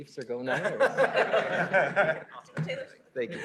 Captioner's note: laughter